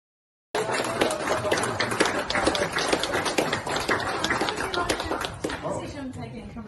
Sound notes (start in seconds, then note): 0.5 applause